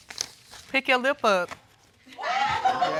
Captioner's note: audience whooping and laughing